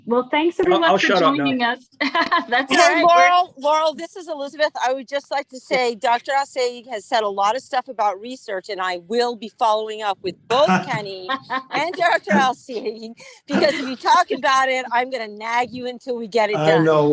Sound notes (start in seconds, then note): 2.0 laughs; 11.2 group laughs; 13.1 laughs